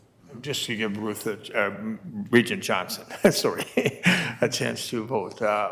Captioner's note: chuckles